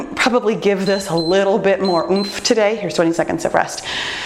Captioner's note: timer beeps